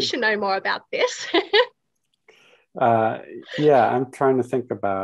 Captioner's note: chuckles